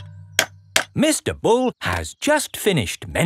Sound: clanking

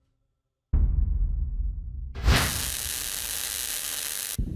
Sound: static buzzes

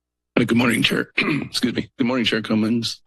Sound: clears throat

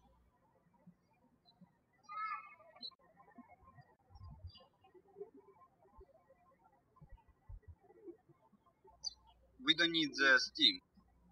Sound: birds chirping

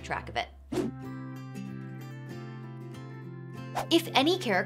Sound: calm upbeat music; air whooshes

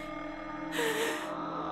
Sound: exhales

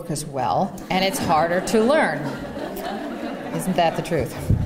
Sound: laughter

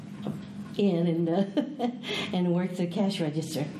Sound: laughs

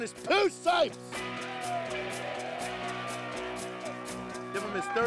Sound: crowd cheers

